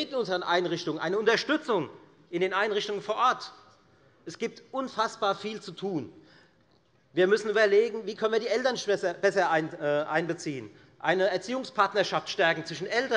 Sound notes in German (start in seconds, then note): none